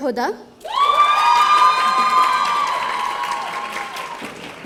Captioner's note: audience cheering